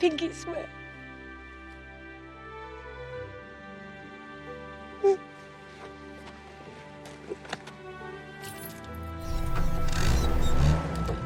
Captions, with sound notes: Pinkie swear. (CRIES) - (STARTS ENGINE) - (FLIP WHINES)